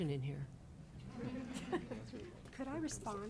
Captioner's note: audience laughing